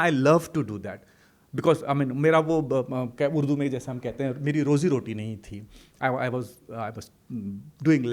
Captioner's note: hindi